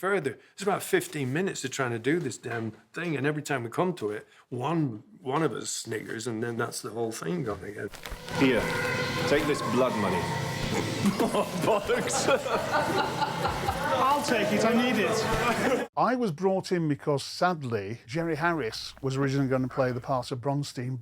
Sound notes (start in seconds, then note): 10.7 stifles laughing; 13.1 laughing; 13.4 crew laughing